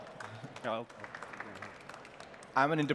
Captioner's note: applause